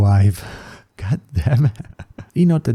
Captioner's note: laughs